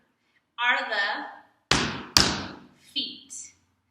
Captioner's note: stomp feet